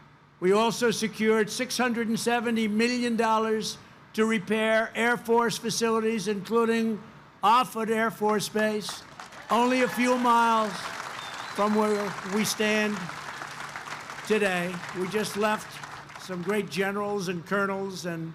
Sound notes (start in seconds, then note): 8.5 applause